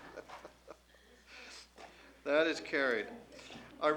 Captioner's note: laughter